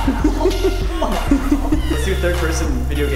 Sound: laughs; grunts

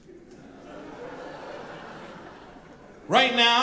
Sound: audience laughing

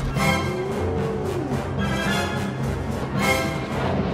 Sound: dramatic orchestral music; dinosaurs roaring

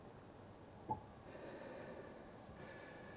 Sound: breathes heavily

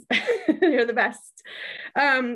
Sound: laughs

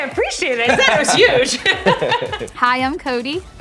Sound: laughter

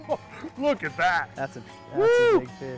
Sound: laughter

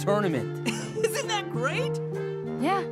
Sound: Bolin laughs

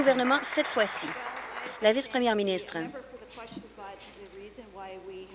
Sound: applause

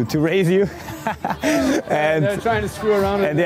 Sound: laughs

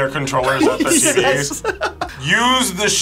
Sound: laughs

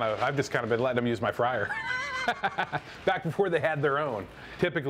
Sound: laughs

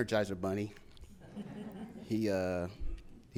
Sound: audience laughs

